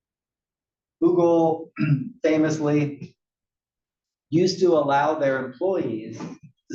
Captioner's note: cough